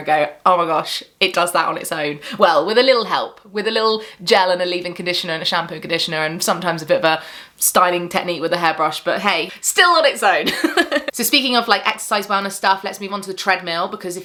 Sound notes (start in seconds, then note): 10.5 chuckles